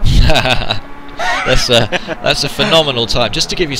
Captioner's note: laughing